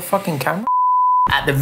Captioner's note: beep